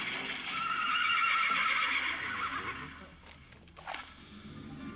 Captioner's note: horse whinnies